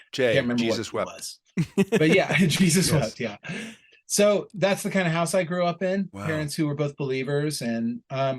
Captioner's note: chuckle